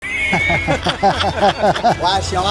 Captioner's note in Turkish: kahkaha